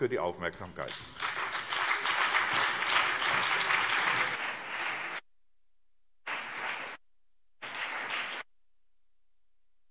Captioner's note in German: Beifall BÜNDNIS 90/DIE GRÜNEN und CDU